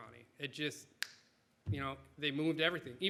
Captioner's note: snaps fingers